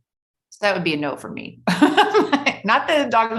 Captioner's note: laughs